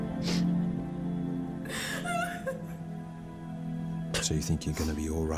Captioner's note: solemn music; Marilyn sobs